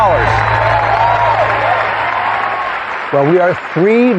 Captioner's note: cheering and applause